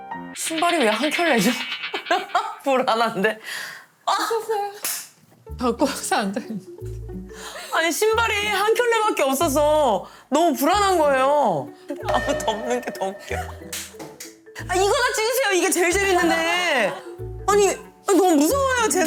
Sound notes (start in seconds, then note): 4.8 clap